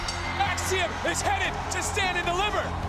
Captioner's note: bell rings